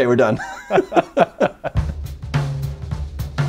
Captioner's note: laughs; jazzy music